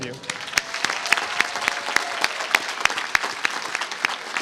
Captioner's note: applause